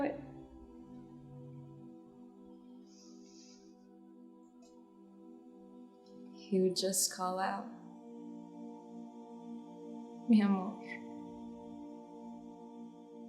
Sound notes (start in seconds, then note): none